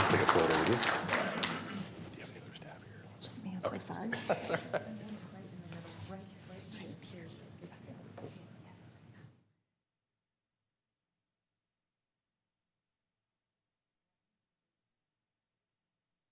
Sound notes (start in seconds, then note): 7.4 applause